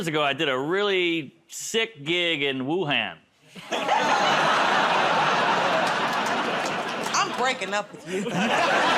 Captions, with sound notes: -About two years ago, I did a really sick gig in Wuhan. [ Laughter, groaning ] -I'm breaking up with you.